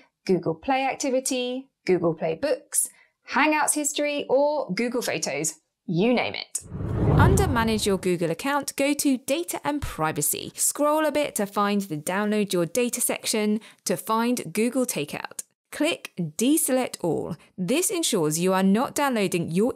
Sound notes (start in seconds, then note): 6.6 air whooshes